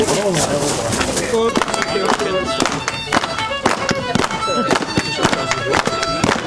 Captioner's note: fiddle playing; clapping